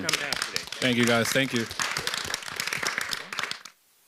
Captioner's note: applause